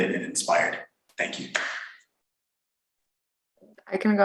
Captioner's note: claps